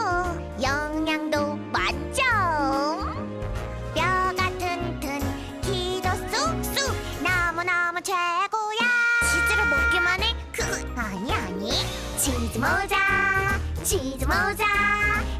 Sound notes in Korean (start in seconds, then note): 10.3 웃음소리